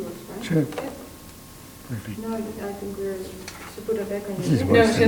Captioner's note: people speak off mic